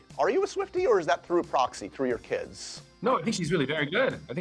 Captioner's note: none